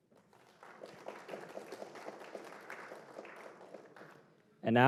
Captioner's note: applause